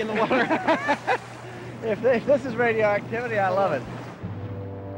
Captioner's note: laughs